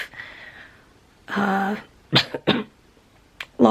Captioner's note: coughing